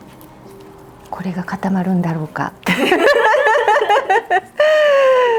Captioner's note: laughs